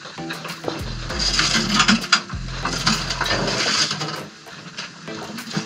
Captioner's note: sounds of clanking and banging